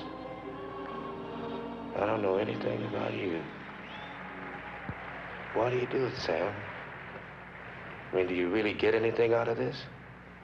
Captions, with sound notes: I don't know anything about you. (distant crowd applauding) Why do you do it, Sam? I mean, do you really get anything out of this?